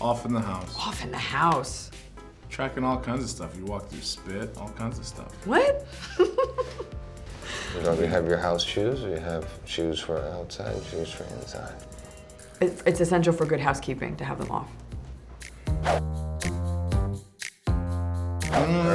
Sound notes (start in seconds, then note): 6.0 laughing; 15.4 upbeat music